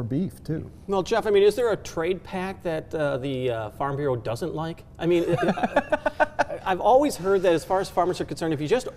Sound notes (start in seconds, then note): 5.2 laughing